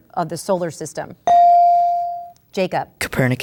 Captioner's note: ding